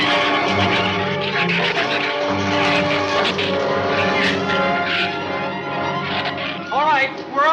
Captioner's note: shrews snarl and chatter; dramatic music continues